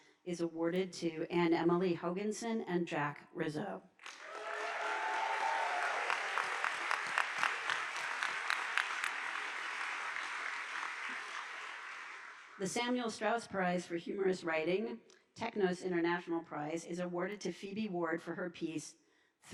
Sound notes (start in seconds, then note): 4.0 audience applauding